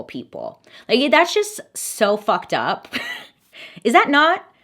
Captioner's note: laughs